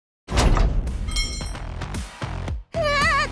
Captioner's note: thud